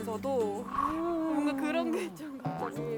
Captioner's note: woooo